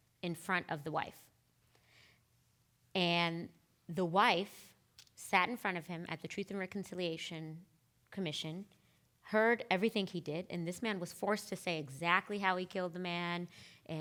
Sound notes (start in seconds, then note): none